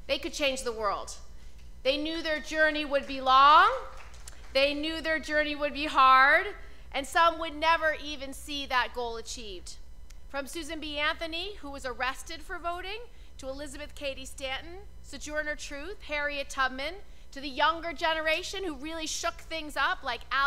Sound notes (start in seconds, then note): 3.8 applause